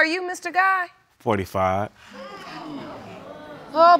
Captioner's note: audience gasping; sighing